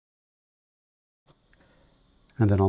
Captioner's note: silence